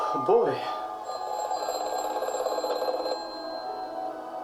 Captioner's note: phone rings